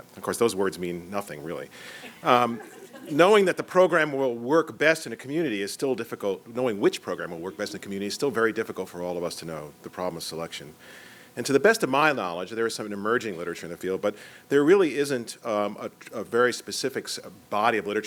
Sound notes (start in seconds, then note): 2.0 laughter